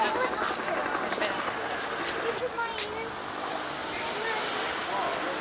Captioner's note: helicopter sound in background